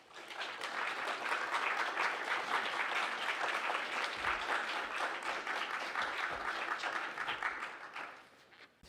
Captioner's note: applause